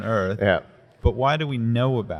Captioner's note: laughs